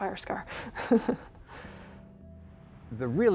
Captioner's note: chuckling